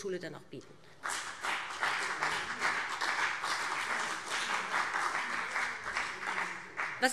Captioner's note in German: Beifall BÜNDNIS 90/DIE GRÜNEN und CDU